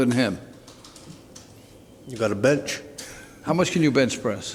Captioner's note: laughs